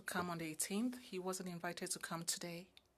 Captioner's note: speaking French